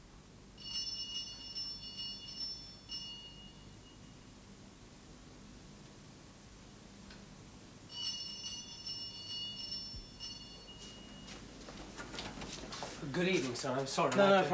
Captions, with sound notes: ( bell rings ) ( ringing continues ) GOOD EVENING, SIR. I'M SORRY.